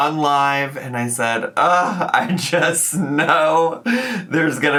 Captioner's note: groans